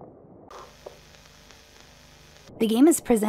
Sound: VHS Static Noise

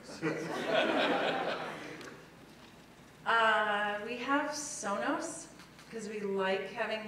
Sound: laugh

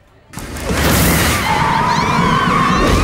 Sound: yelling

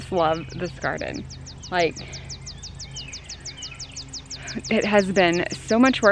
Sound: birds calling

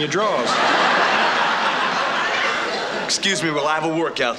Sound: audience laughing

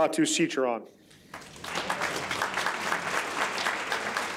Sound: audience applauds

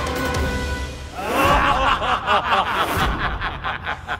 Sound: laughs

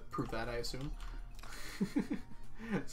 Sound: laughs

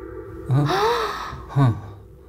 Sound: sighing

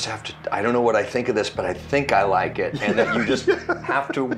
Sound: laughs

